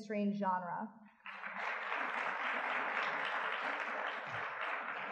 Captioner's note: audience clapping